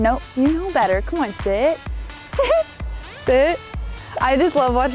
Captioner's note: laughing